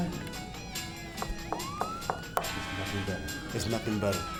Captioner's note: knocking on belt